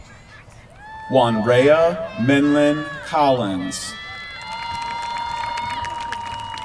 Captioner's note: applause